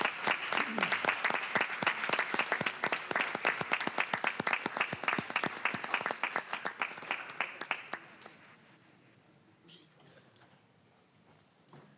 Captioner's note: applause